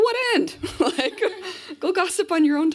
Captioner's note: laughter